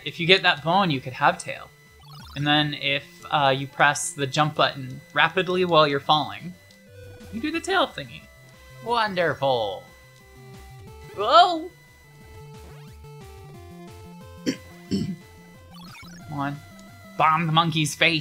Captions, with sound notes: If you get that bone, you could have tail. And then if you press the jump button rapidly while you're falling, you do the tail thingy. Wonderful. Whoa! [coughs] Come on. Bomb the monkey's face.